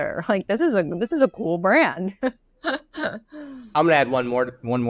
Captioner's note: laughs